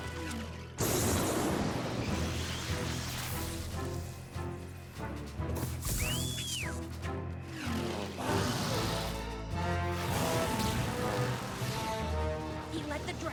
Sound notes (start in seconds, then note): 0.8 crash!; 5.8 whistle